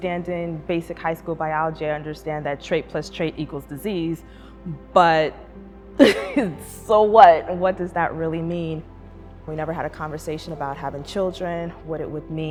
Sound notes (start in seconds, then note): 6.0 laughs